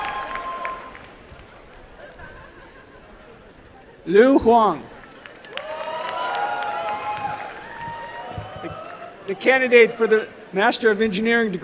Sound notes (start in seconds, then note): 0.0 applause; 5.0 applause and cheering